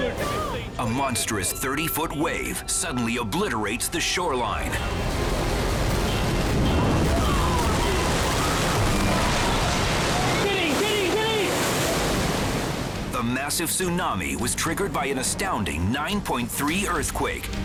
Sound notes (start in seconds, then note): 6.2 wave booms